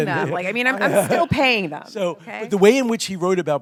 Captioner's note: laughter